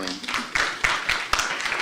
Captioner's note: applause